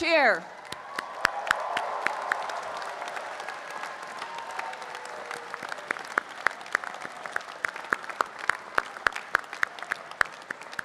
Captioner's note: cheering and applause